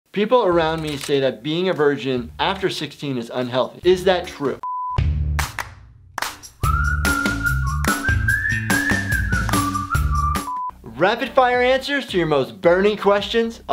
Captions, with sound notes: - "People around me say that being a virgin after 16 is unhealthy. Is that true?" (beep sound) (upbeat music) (beep sound) Rapid-fire answers to your most burning questions?